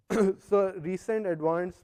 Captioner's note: cough